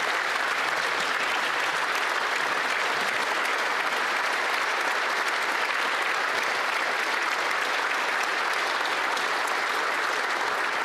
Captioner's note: some Applause